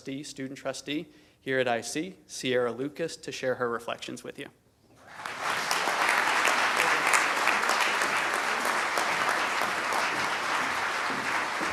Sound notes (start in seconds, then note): 5.0 applause